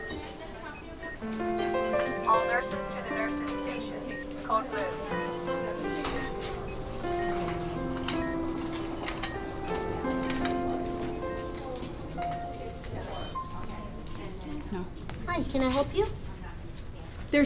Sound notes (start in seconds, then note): 0.3 group chattering; 5.8 gentle music; 5.8 monitor beeping